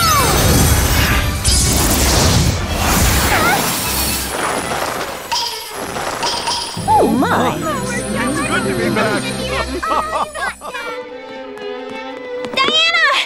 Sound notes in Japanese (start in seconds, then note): 11.2 走る足音